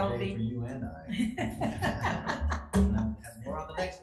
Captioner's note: chuckles